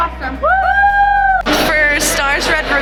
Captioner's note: cheering